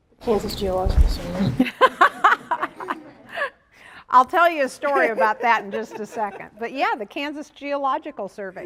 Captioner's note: laughter